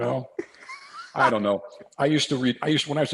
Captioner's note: laughs